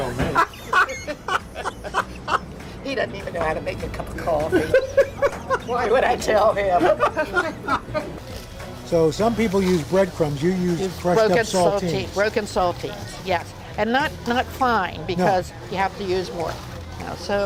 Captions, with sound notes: (laughs) - He doesn't even know how to make a cup of coffee. Why would I tell him? So, some people use breadcrumbs. You use broken saltines. - Broken saltines. Yes. And not fine, because you have to use more.